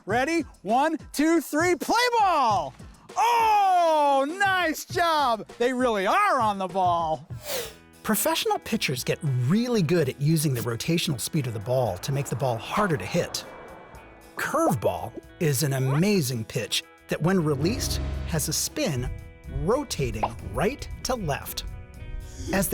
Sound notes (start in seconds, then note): 7.3 air whoosh